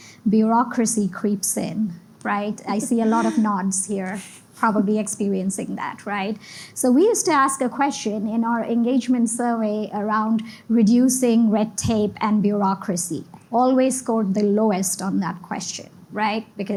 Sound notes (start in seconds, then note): 2.7 laughs